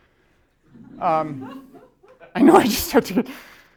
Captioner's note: laughter